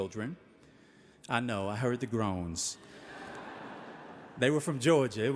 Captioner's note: audience laughing